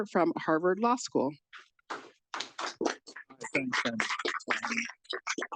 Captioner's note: audience applauding